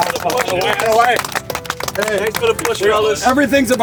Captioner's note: clapping and chatter